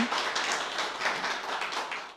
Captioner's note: applause